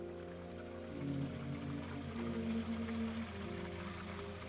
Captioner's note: water rushing